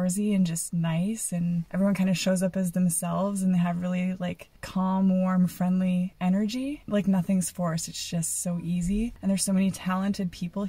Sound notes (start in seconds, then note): none